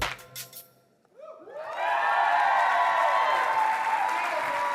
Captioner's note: applause